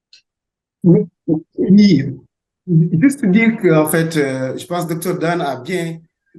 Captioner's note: speaking French